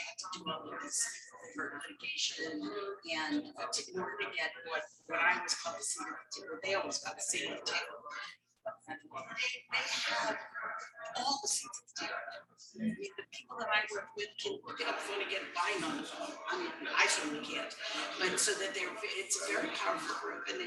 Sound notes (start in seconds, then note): 8.7 people chattering indistinctly